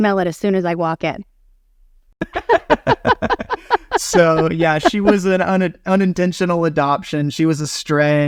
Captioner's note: laughing